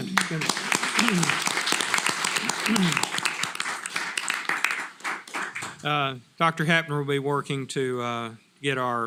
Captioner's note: applause